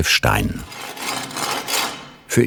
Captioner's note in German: Schleifgeräusche